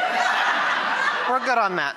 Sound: audience laughter

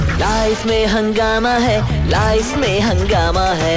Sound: none

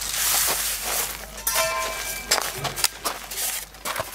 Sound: metal clanking

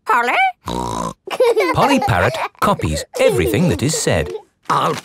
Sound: laughing

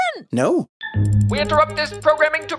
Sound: over a newsflash sound, interrupting the flow, in an old-timey voice

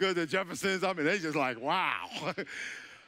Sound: laughing

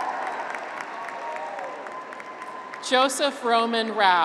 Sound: graduates cheer

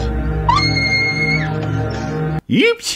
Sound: holly screams, again

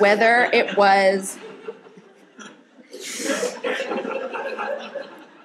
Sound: audience laughing

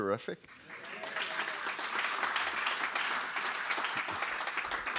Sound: audience applauds

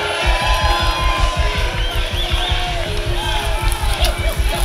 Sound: spectators cheering; climactic melody

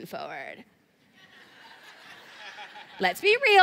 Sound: laughter

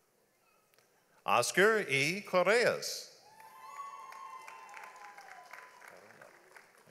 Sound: audience applauds

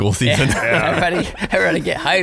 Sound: laughing

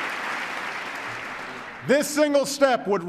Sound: applause

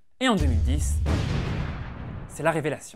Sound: explosion

